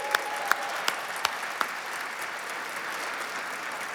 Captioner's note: applause